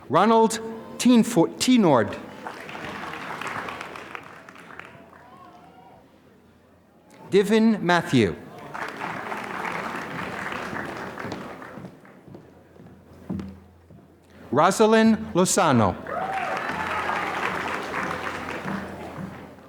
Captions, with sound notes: Ronald Tinort. (applause) Divin Matthew. (applause) Rosalind Losano. (applause)